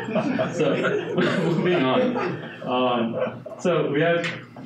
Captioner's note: audience laughing